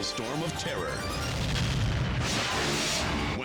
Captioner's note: fireworks exploding